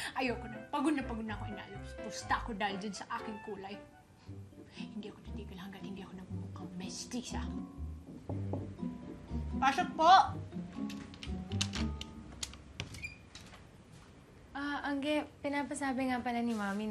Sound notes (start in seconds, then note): 8.2 door knocks; 12.7 door opens; 12.8 door knob turns